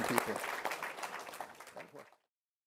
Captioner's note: applause